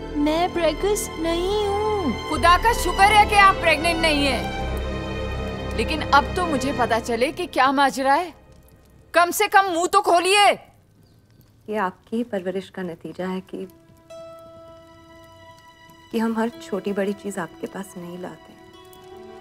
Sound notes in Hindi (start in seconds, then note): none